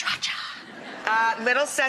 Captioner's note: audience laughs